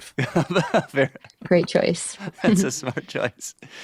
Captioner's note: laughs